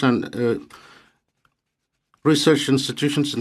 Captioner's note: speaking French